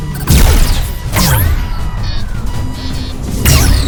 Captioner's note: gun firing